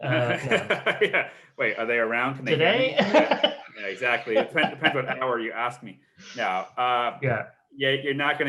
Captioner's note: laughs